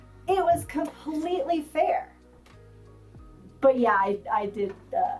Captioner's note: none